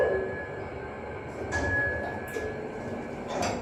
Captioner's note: ding